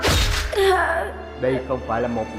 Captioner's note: moaning